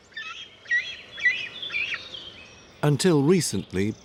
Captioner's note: eagle caws